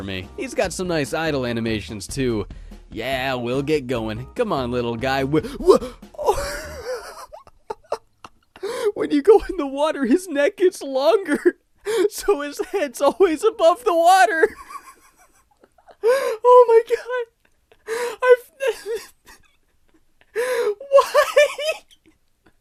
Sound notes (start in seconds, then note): 6.2 wheezing laughing noise; 14.6 more wheezing laughter; 18.6 more laughing